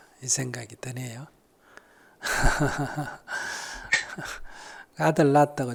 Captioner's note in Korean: 스님 웃음